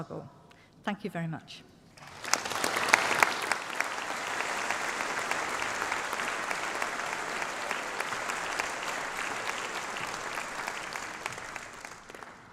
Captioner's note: applause